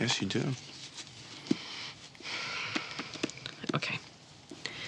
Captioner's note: sighs